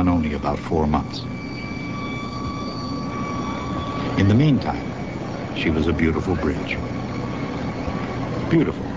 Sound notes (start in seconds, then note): 1.8 sirens wailing